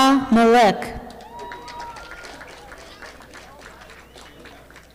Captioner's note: audience applauding